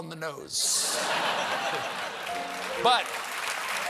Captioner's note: laughter; applause